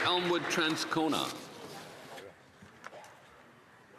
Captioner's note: applause